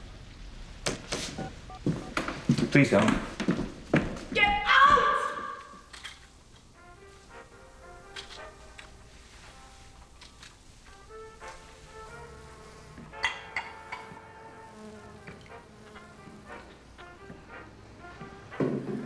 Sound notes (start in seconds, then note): 1.2 keypad bleeps